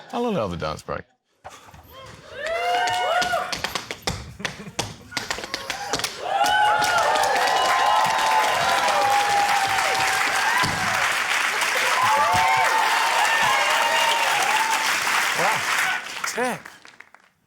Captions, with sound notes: - I'll allow the dance break. (AUDIENCE CHEERS) (CHEERING, APPLAUSE) Wow. Tap!